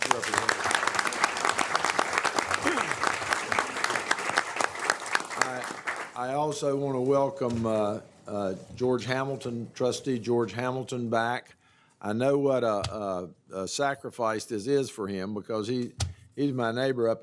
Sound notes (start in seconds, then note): 4.1 applause